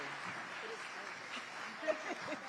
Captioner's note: audience applauding; all three laughing and talking; audience applauding